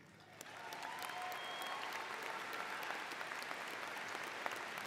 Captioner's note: audience cheers